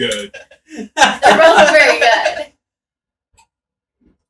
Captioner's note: laughing